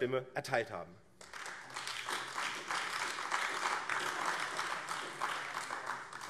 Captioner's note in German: Beifall AfD